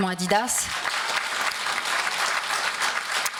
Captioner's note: applause